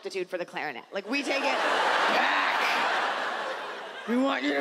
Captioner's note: audience laughs